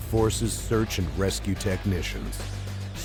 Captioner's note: voiceover